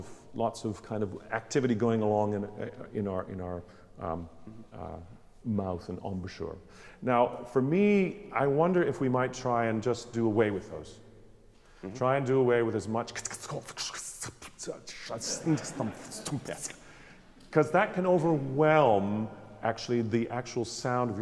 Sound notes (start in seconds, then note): 13.6 speaking garbled German; 15.2 laughing